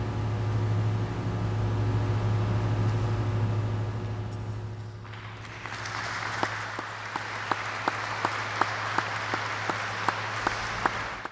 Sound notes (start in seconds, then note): 5.0 applause